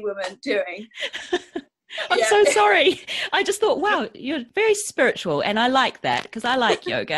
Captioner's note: laughs